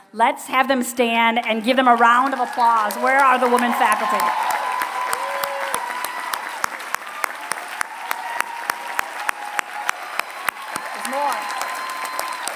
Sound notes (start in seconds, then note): 3.8 applause